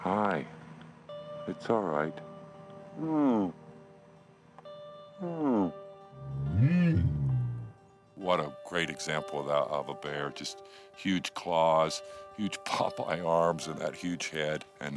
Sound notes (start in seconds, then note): 3.1 grunting; 6.1 bear grunting